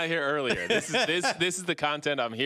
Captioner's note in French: laughter